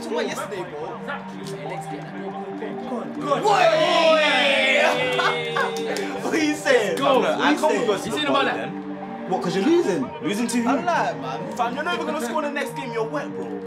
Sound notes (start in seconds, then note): 3.2 they cheer